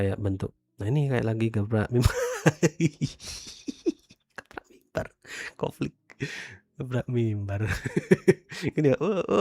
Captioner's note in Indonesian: tertawa; tertawa